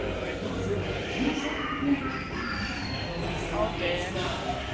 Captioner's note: Zurg speaks French